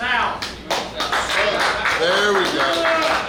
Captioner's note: clapping